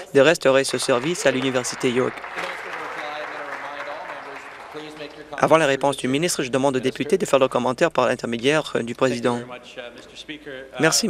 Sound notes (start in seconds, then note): 3.2 some Applause